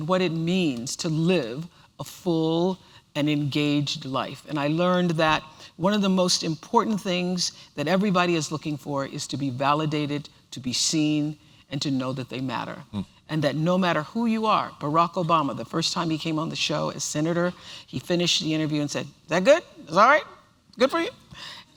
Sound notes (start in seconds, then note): 19.0 obama tone